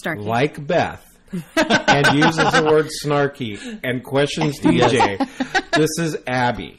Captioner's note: laugh